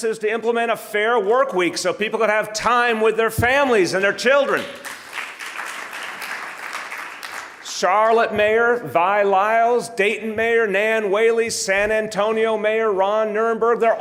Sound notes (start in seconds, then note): 4.4 audience applauding